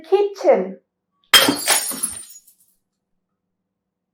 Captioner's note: sonido de vidrio rompiéndose